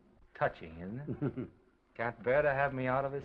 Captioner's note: Oliver laughs